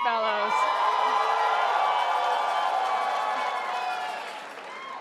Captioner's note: crowd applauding